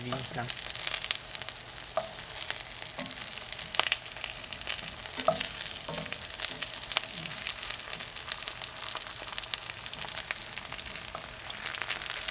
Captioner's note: frying